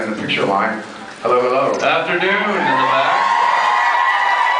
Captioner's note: screams, cheers